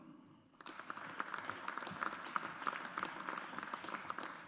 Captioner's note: audience applauds